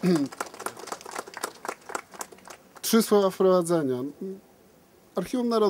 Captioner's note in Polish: Aplauz